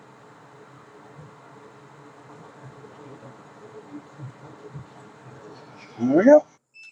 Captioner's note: machinery whirring